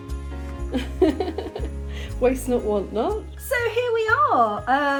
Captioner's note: laughing